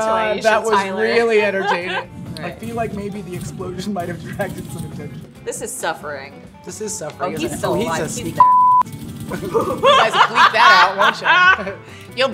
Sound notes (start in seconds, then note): 9.2 laughter